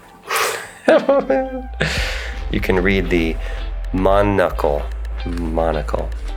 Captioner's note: laughs